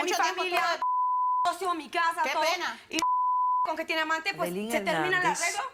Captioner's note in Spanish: Bip; Bip